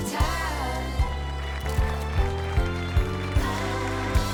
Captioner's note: applause